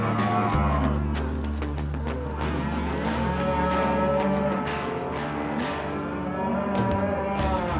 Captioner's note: cattle moo